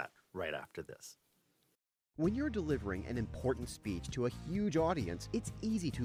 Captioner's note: voiceover